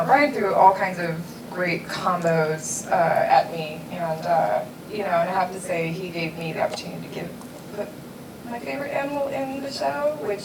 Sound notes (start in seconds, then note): none